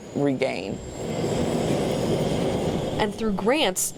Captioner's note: truck rumbling